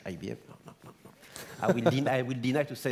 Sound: laugh

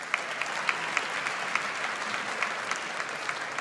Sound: audience applauds

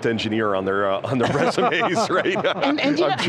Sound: laughs

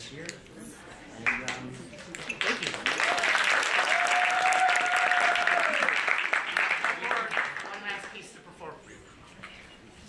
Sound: applause

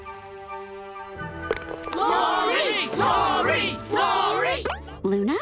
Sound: chanting

